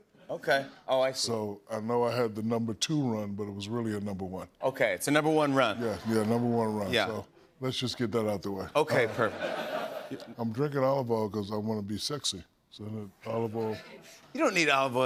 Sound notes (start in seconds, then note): 8.8 laughter